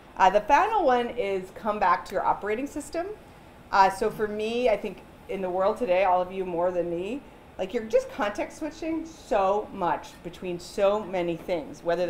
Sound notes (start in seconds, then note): none